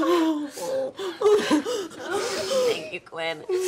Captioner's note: everyone cries